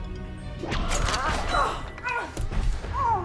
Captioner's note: blades whips; Dr. Damian cries out